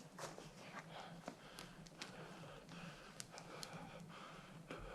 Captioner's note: breathes heavily